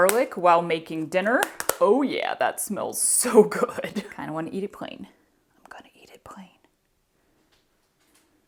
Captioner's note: whispered